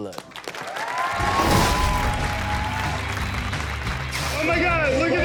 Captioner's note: audience cheers; upbeat music